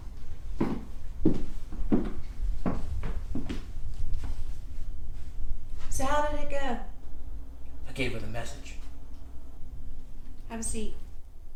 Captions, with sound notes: (footsteps thumping) - So how did it go? - I gave her the message. - Have a seat.